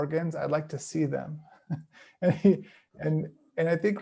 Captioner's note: chuckles